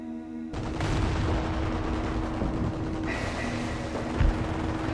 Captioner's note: artillery firing